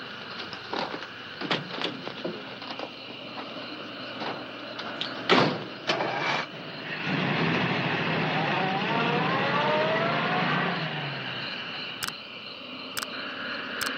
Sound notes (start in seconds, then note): 8.6 engine rumbles